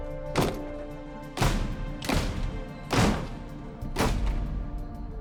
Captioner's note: doors slamming